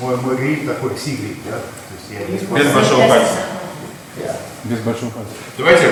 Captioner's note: speaking in a foreign language